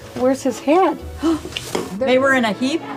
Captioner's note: gasping